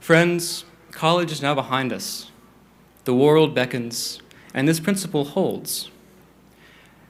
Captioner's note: none